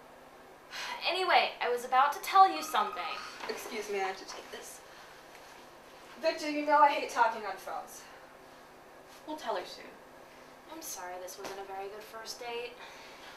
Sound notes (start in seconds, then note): 2.3 phone ringing